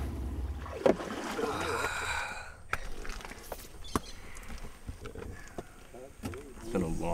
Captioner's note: sighs